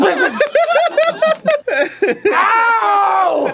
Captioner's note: giggling